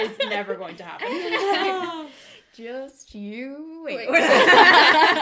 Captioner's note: laughter